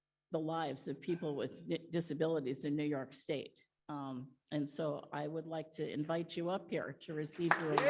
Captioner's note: audience appluades